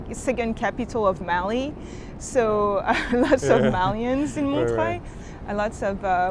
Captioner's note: laughs